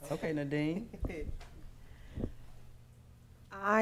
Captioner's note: laughing